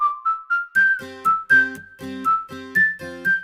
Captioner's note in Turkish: ıslık çalar